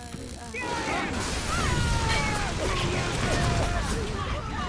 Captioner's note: screaming